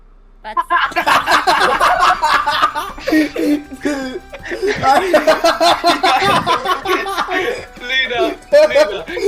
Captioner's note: laughter